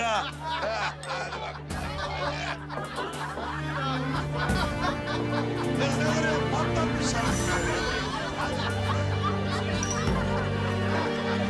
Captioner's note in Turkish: Kahkaha atıyorlar